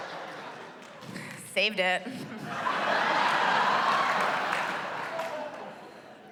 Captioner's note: laughter